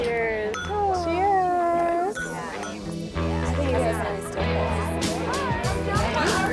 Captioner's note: contestants chattering